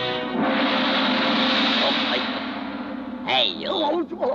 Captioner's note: gong banging